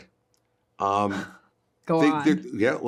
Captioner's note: Hoover laughs